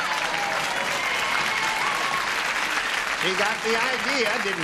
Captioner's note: applause, cheering